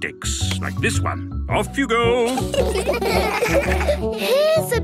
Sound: laughter

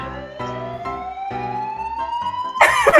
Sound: alarm sounds

